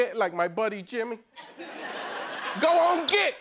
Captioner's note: laughter